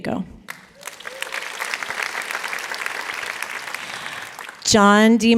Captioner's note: applause